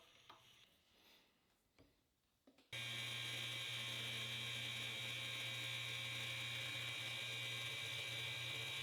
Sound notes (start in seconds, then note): 2.7 machine buzzing